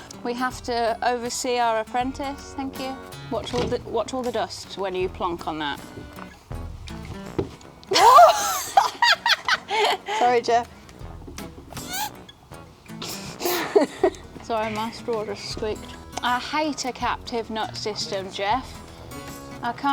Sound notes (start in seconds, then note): 7.9 loud laughing; 11.0 squeaking sound; 13.0 girls giggling